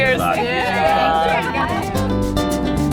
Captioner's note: group exclaims; upbeat music